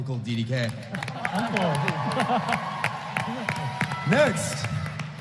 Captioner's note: applause